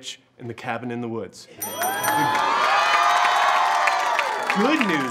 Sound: cheers and applause

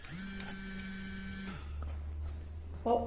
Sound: phone buzzes

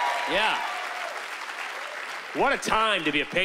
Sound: cheering and applause

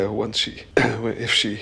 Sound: clears throat

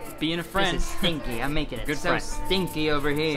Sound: chuckling

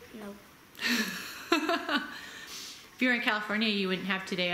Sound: laughs

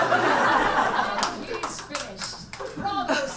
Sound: audience laughs

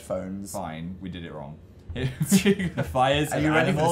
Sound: both laugh

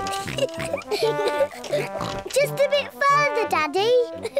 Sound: kids giggle; snorts

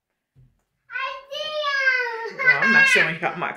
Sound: laughs

